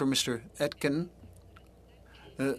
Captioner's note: speaking French